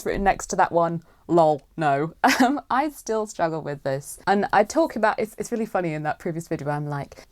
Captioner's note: laughs